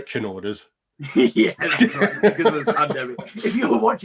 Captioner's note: laugh